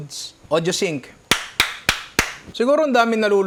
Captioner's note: claps